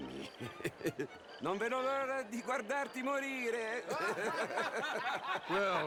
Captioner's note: laughs; laughs